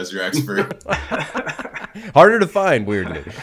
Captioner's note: all laughing